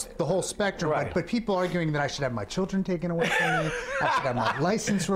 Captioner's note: laughs